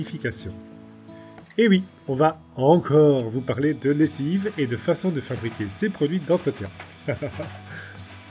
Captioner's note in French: rires